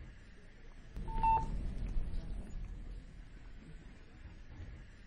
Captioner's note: phone alert